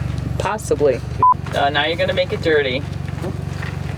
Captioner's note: beep